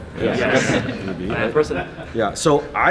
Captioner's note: crowd